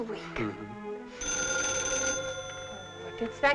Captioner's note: phone ringing